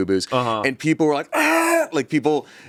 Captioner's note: yells